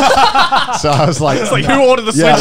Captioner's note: laughing